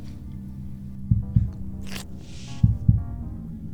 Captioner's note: heartbeat sound